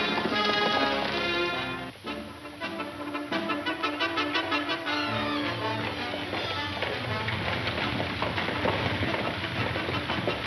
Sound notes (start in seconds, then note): 0.1 dramatic music; 4.9 horses gallop